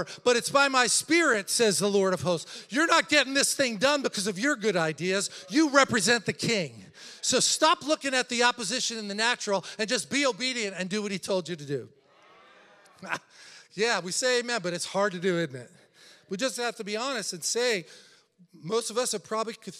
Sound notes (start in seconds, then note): 12.0 congregation chattering; 13.3 laughs